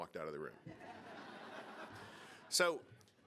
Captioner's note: audience laughing